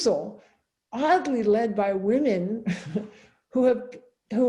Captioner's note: chuckles